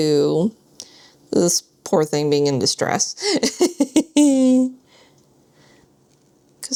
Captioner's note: laughs